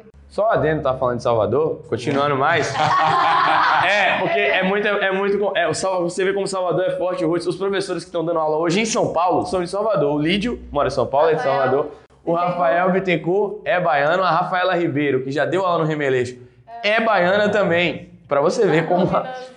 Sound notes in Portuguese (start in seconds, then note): 2.5 risos